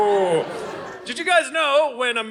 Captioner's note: audience laughing